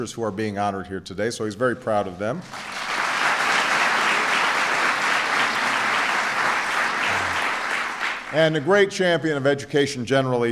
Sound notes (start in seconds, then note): 6.8 applause